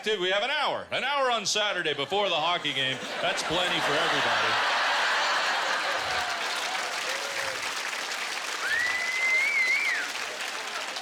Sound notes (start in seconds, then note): 4.5 laughter; 6.6 applause